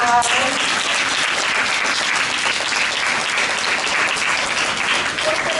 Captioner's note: applause